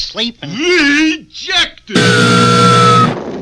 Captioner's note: buzzer Sounds; crash!